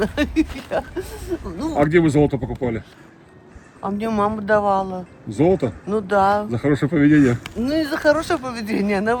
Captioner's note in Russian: смех